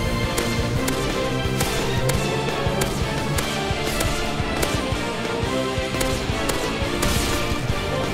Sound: Call of Duty hitmarker sounds

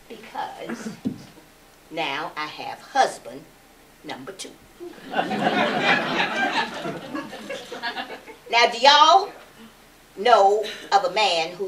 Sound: laughter

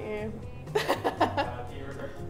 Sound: laughs

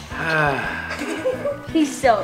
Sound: kids giggling

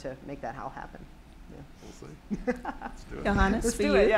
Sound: laughing

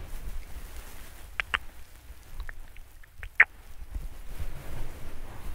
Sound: kisses and mouth sounds

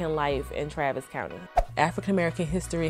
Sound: whoosh

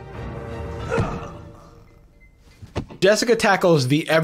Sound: suspenseful music; painful grunt; thud

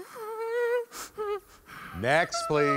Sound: participant humming continues

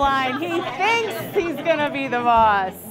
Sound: laughter

